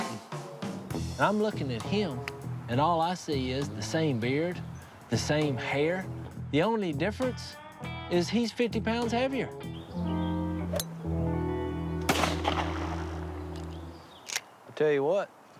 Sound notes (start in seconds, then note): 9.3 crack of the club; 12.0 gunshot